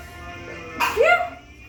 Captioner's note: sneeze